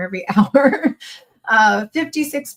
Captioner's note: chuckles